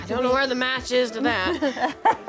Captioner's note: laughter